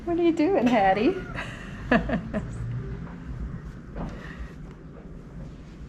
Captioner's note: laughs loudly